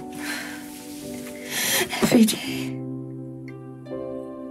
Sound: none

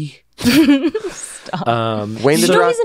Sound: laughing

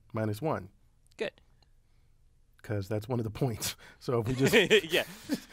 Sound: laugh

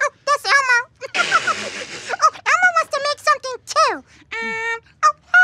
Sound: laughing

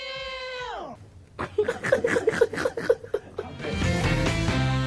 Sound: all laughing

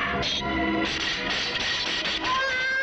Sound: gunshot; pram rattles; baby crying

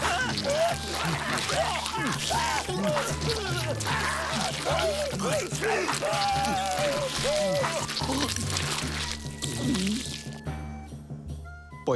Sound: screaming and biting

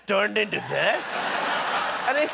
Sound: laughter

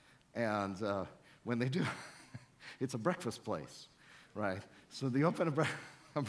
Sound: chuckles

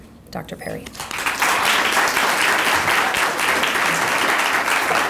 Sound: audience applauding

